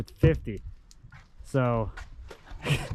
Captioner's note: chuckling